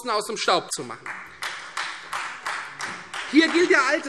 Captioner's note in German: Beifall Freie Demokraten